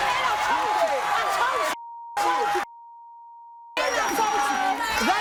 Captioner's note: beep; crowd shouting